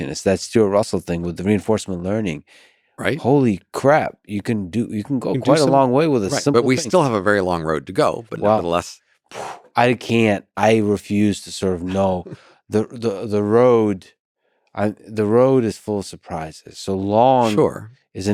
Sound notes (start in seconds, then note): 9.3 gasps